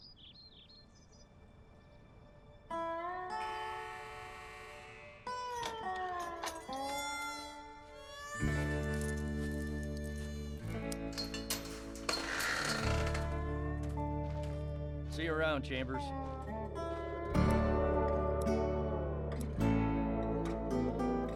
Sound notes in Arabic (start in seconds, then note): 0.0 زقزقة الطيور; 5.5 يفتح الباب